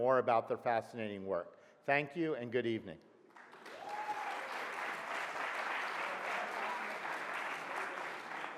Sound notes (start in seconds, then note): 3.3 audience applauds